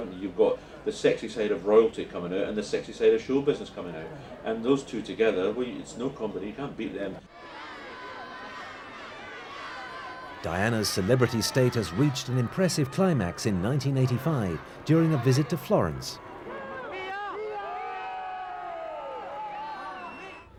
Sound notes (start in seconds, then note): 7.8 cheering and shouting